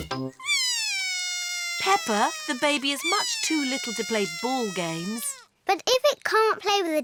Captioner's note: bawls